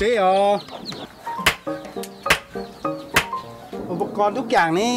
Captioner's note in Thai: เสียงตีเหล็ก